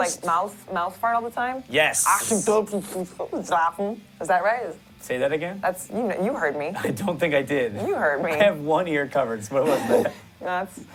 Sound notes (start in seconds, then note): 3.0 german gibberish